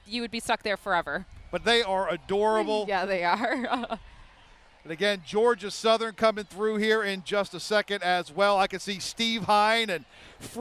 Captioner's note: laughter